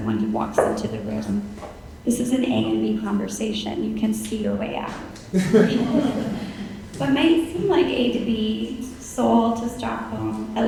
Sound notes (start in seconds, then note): 5.3 audience laughing